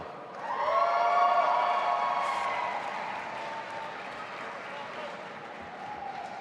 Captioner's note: audience applauding and cheering